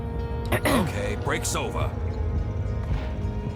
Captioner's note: ahem